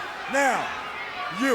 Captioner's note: crowd cheering